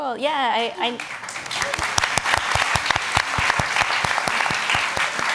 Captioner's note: audience applauds